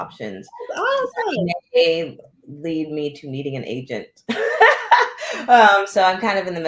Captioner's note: laughter